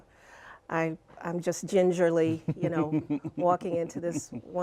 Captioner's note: laughter